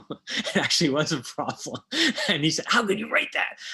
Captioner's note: laughs